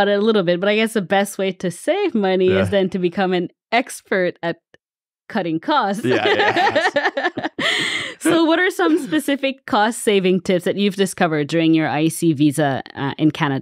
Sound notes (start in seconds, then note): 5.9 laughs